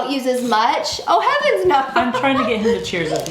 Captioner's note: laughing